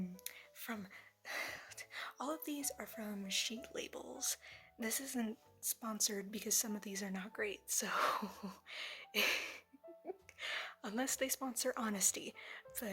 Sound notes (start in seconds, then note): 9.1 chuckle